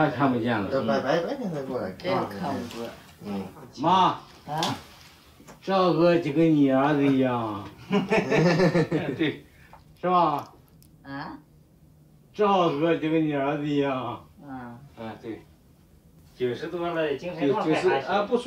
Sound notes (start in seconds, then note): 0.1 speaks in Chinese language; 7.8 laughter; 10.1 speaks in Chinese language; 15.1 speaks in Chinese language